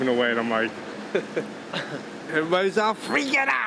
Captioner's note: chuckle